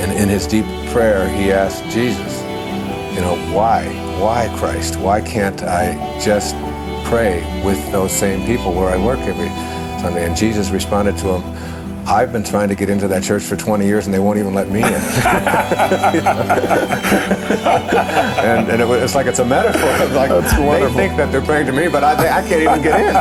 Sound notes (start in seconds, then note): 14.8 laughter